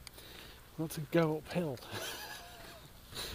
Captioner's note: laughs